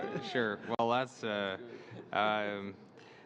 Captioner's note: laughter